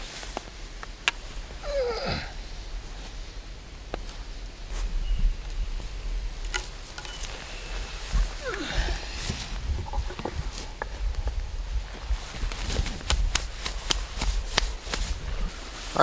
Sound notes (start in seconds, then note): 1.6 groaning; 5.3 wind whooshing; 11.6 hands rustling